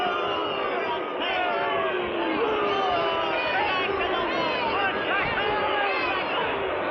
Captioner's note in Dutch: boegeroep; schreeuwen